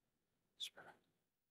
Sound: silence

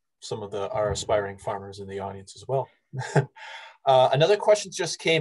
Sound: laughs

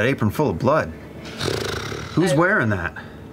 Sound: sighs

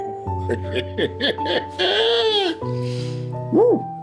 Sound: laughing

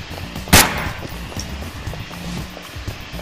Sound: gun firing

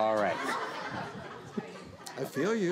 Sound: laughing

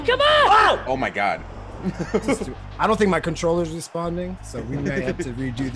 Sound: laugh

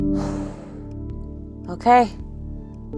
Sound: exhales heavily

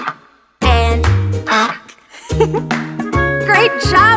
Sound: duck quacks

